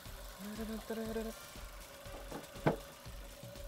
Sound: humming

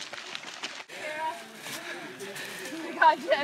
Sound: breathing heavily

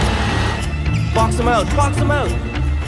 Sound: shouting a play

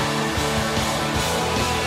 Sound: cheers and applause

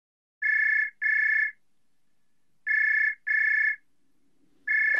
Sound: phone Ringing

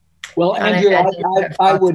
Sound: murmuring

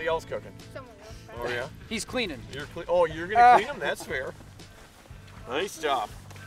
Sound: laughing

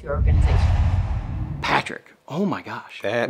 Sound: logo swooshes

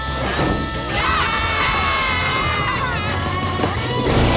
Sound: screaming

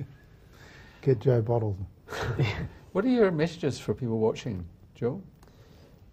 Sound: chuckles

